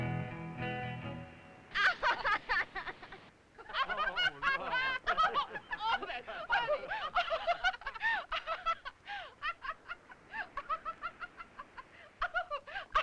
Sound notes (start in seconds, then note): 2.0 group laughing; 7.2 Bunny laughing